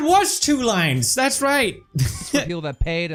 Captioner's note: laughs